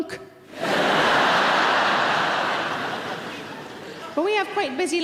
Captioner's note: audience laughing